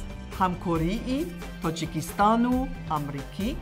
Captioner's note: speaking tajik